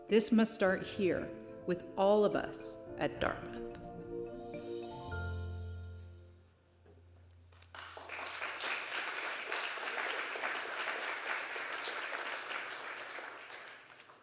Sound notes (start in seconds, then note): 4.5 melodious music; 7.5 audience applauding